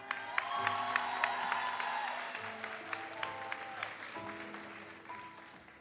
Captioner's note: audience cheers and applauds